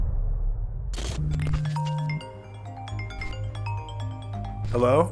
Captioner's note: phone rings